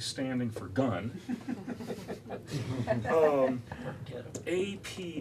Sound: laughter

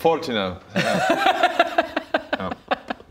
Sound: laughs as if they're not nearly 40 too

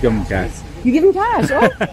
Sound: laughs

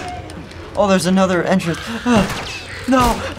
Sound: bullet bounces

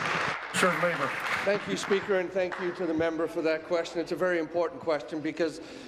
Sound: applause

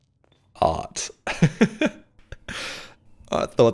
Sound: laughs

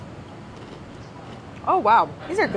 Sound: crunching

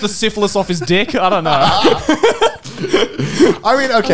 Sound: men laughing

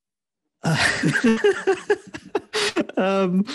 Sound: laughs

